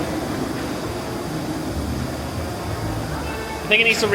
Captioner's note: floo hissing